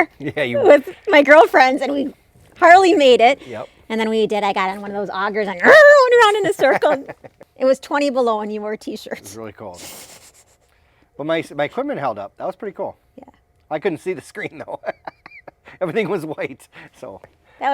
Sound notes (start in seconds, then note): 5.6 screeching; 14.4 laughing